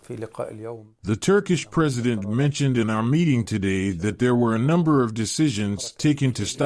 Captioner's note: Turkish